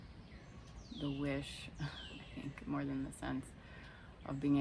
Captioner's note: laughs